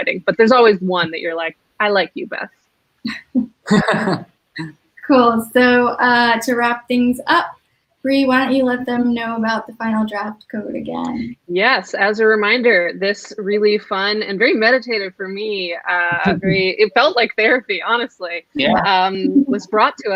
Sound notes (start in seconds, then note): 3.1 laughs